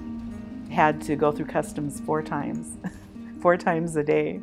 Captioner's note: chuckles